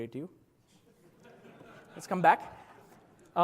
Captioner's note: laugh